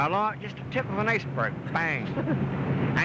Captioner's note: laughs